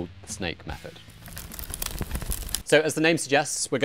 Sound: flames crackling

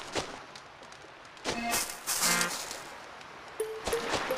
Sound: footsteps

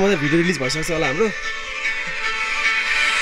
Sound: laughing

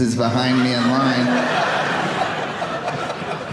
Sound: audience laughing

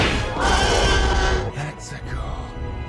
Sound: T-rex Roar

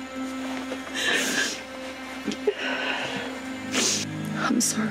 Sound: sniffs; crying sounds

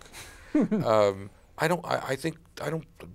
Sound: laughs

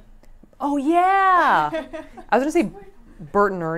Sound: laughs

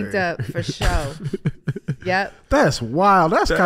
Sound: laughing

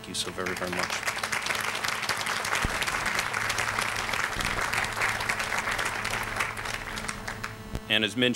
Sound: applause

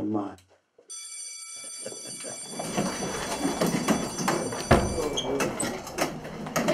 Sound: school bell rings; students chatter

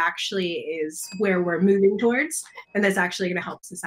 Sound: bell dings

